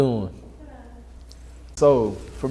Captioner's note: distant talking